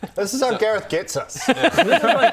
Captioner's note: gullible laughter